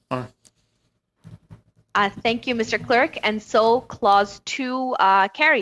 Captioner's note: speaking French